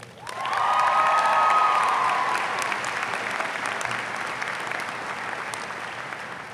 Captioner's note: audience applauds; audience cheers